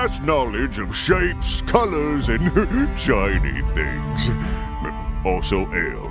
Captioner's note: chuckle